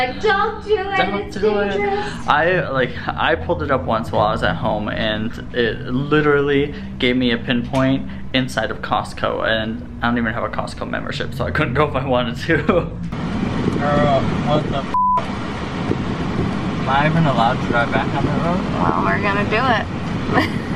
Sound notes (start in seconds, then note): 14.9 beep; 20.3 all laughing